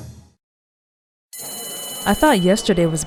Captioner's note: school bell